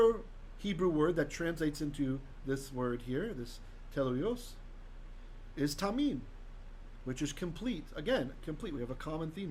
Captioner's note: Hebrew